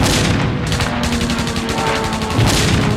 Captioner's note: V-1 explodes; guns firing; jet engines roaring; V-1s exploding